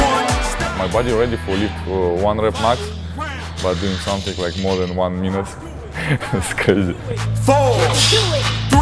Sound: laughs

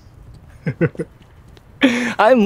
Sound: chuckles

